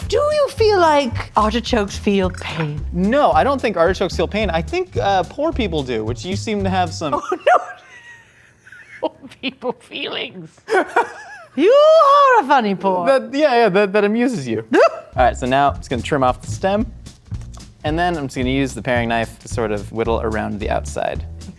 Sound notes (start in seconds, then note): 7.1 laughing